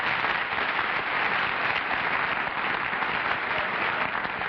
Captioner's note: applause